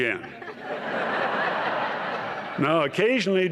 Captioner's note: laughter